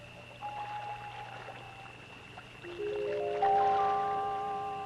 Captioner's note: water splashing